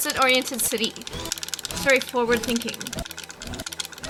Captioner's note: loud button clicking